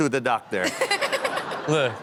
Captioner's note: all laugh